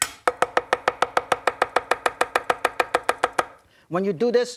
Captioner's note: knife cutting on board